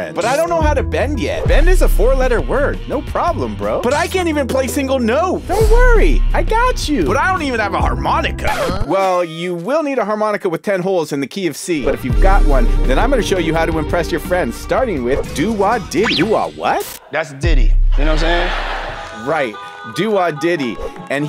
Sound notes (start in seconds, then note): 8.5 record scratches; 18.0 audience laughs